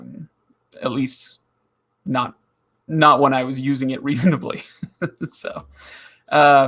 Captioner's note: chuckling